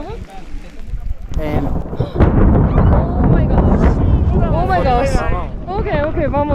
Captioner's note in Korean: 잠시 뒤 천둥 번개소리 와르르